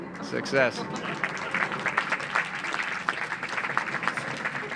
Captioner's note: audience applauds